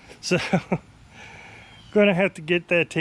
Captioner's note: chuckles